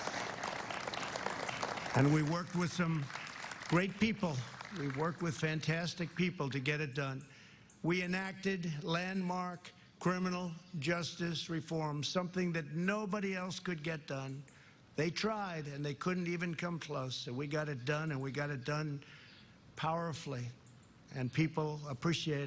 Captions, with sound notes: RESULTS LIKE WE'VE DELIVERED. NOBODY'S COME CLOSE. ( APPLAUSE ) AND WE WORK WITH SOME GREAT PEOPLE. WE WORK WITH FANTASTIC PEOPLE TO GET IT DONE. WE ENACTED LAND -- LANDMARK CRIMINAL JUSTICE REFORM. SOMETHING NOBODY ELSE COULD GET